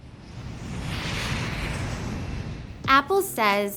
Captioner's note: plane whooshing